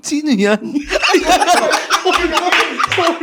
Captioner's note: Philkotse boys laughing